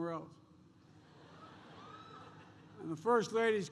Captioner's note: laughter